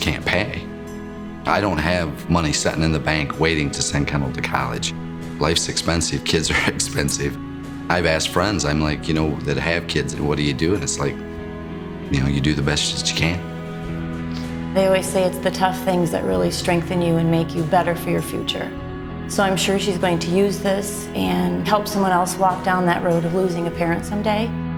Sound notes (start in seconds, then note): 6.4 laughter